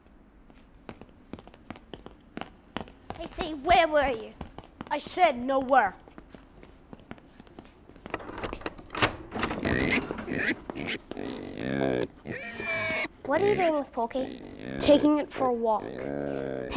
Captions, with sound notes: - KC, where were you? - I said nowhere. (pig oinking) - What are you doing with Porky? - Taking it for a walk.